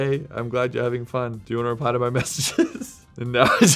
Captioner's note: laughing